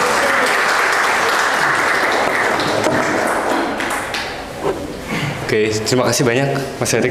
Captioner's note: applause